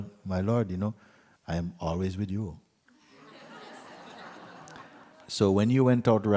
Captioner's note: laughter